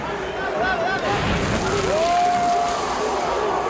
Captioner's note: flames crackle